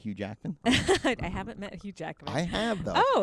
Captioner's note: laughs